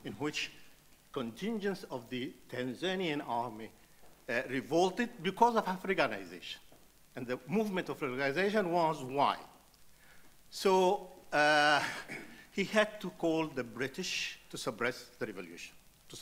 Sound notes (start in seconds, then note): 11.8 sighs